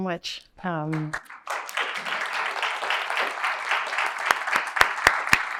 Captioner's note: applause